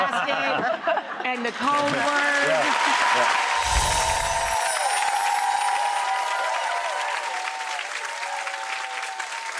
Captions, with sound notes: The phone basket, and the codeword. (applause) (chimes ringing) (applause) (cheering)